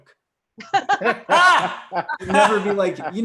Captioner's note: laughs